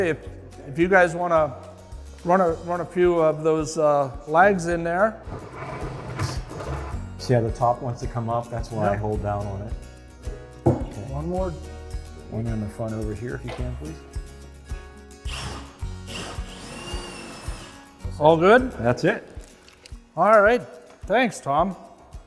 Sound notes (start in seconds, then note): 14.3 gentle uplifting music; 15.2 drill whirs